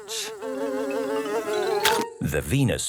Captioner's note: buzzing; chomps